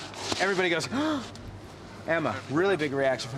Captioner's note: gasps